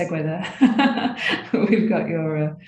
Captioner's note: chuckling